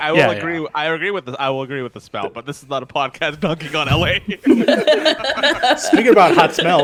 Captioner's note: laughs